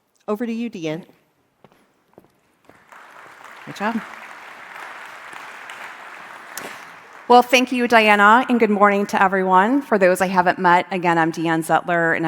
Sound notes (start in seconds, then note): 2.6 crowd clapping